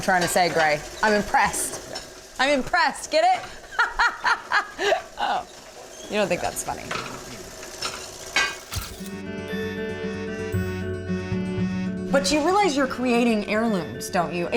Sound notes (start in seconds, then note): 3.6 laughter